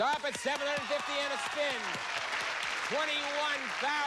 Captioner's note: cheers and applause